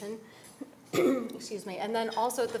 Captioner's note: coughs